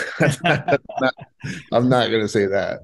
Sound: both laughing

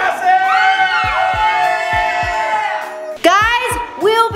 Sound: cheering

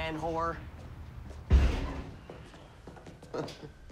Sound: door closing; laughing

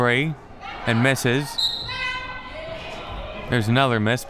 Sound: whistle

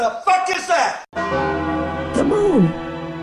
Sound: bell Chimes

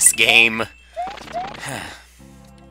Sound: sigh

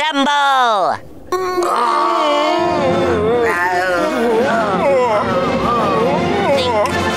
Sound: growling

